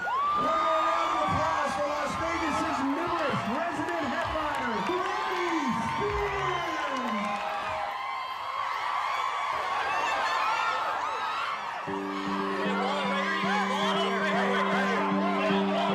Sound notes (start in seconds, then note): 7.5 cheering, screaming continues; 13.4 crowd shouting